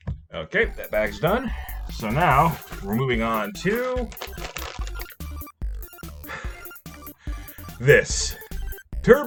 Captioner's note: laughs